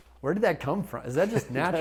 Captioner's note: laughter